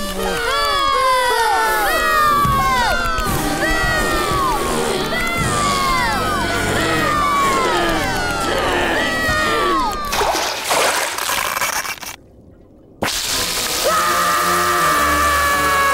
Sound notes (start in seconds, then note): 1.3 booing; 13.8 screaming